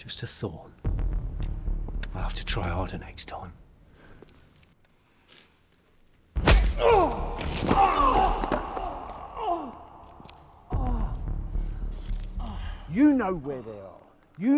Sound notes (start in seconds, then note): 6.4 slap thudding; 6.7 Dan groaning